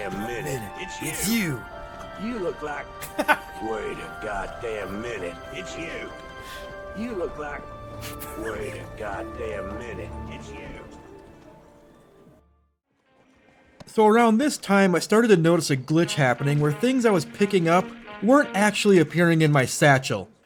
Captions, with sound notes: One minute, it's you! (Cackle) Around this time I started to notice a glitch happening where things I was picking up weren't actually appearing in my satchel.